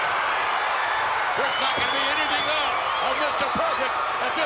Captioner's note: applause